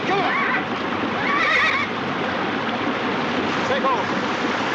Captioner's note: neighing